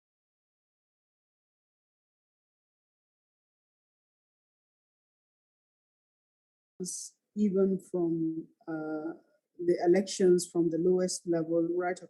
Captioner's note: silence